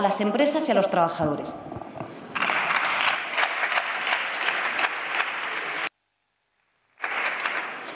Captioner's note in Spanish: Aplausos